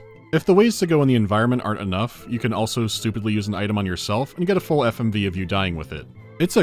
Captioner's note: none